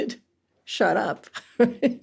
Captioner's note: laughs